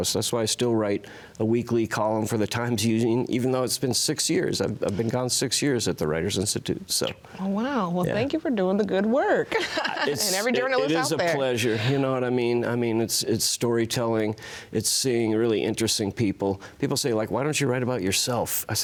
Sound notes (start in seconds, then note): 9.4 laughs